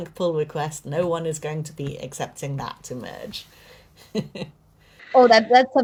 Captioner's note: chuckles